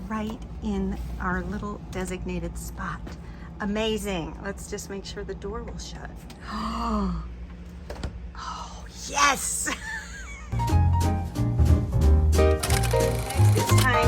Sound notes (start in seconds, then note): 6.4 gasps; 10.5 upbeat music